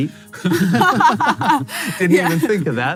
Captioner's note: laughing